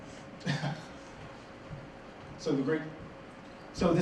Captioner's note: laughs